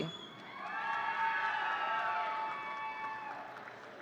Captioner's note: audience cheering